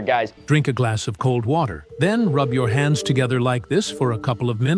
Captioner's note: TikTok AI narrator